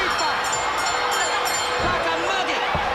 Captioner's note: bell ringing